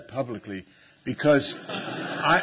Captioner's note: laughter